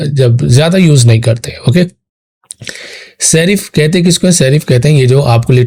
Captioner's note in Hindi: नाक से की जाने वाली आवाज़